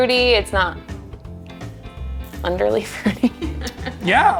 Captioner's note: laughs